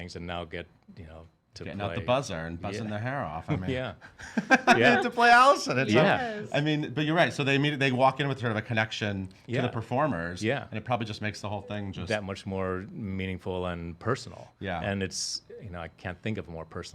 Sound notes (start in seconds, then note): 4.0 laughing